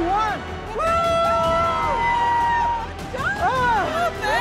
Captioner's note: cheering